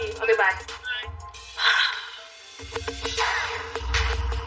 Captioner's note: sighs